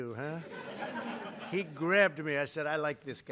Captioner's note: laughter